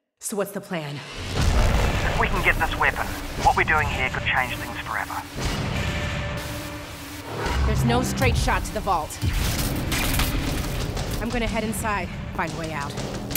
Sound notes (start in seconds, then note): 5.4 suspenseful music; 9.4 electricity arcing